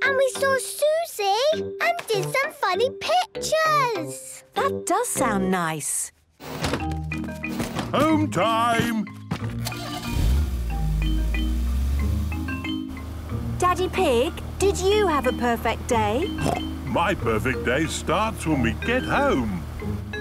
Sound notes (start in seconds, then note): 9.6 engine starting